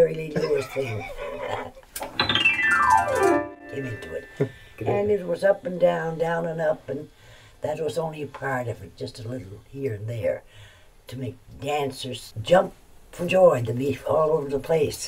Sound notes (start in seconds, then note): 1.9 laughs